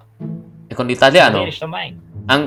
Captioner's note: Italian